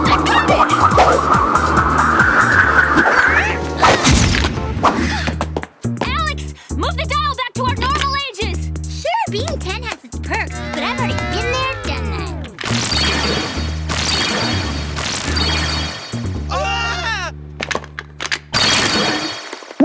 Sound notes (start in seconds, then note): 12.6 laser shooting